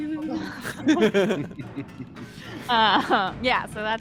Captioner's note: laughs